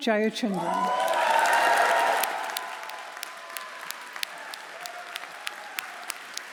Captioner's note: audience cheering; audience applauding